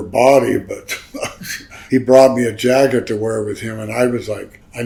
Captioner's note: laughs